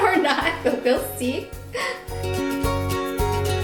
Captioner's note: chuckling; bright cheery music